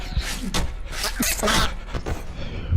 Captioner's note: sneezes